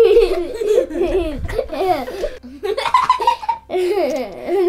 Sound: laughter

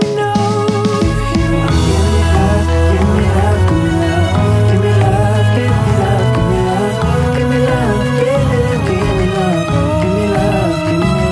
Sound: mhh

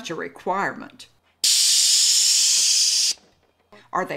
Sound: suspension hissing

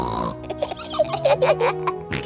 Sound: snorts; both giggle; snorts

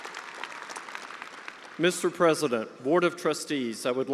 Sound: attendees applauding

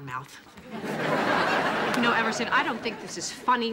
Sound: audience laughing

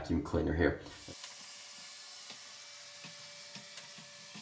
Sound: vacuum whirling

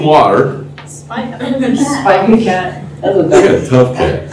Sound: laughter

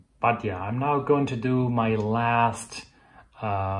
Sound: speaks foreign language

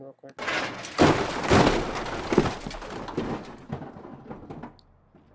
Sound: metallic rattling and crunching

